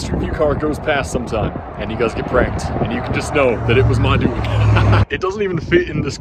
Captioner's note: laughs